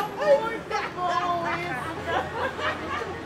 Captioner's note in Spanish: risas